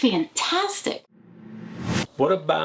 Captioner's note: logo whooshing